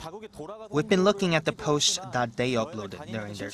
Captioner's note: Korean